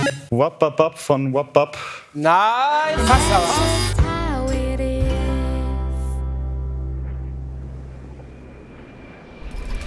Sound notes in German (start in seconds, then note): 6.8 Leises wehender Wind